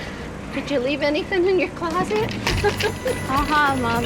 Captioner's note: laughs